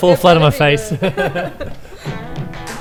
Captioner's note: laughter